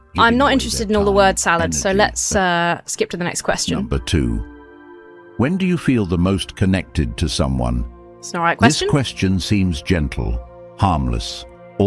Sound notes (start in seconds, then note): 4.1 AI Voice